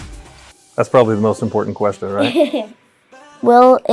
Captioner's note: laughs